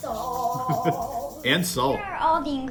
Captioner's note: laugh